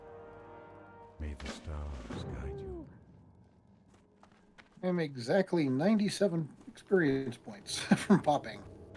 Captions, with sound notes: [humming] I'm exactly 97 experience points from popping.